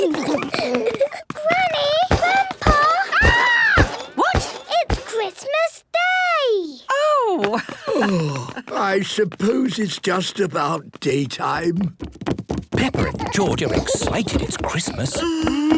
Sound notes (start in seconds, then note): 0.0 giggling; 7.4 laughing